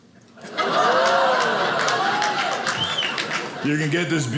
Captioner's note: audience cheering